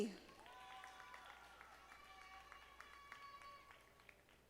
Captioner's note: audience applauding